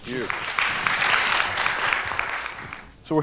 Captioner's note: applause